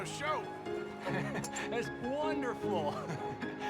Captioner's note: laughs